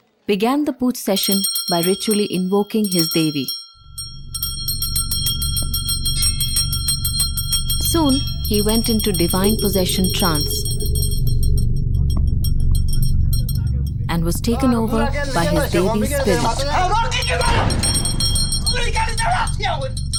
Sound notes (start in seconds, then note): 4.0 bell jingling; 11.0 dramatic music; 11.0 intense bell jingling